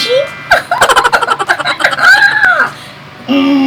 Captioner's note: laughing!